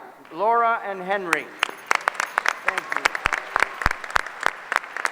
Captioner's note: applause